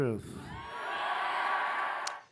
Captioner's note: cheers